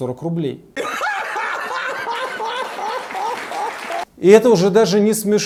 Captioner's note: laughs liberal-democratically